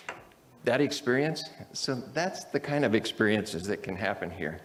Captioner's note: none